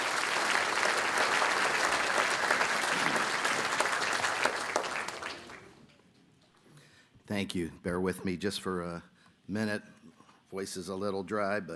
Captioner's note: applause